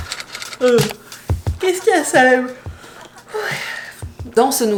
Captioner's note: yawn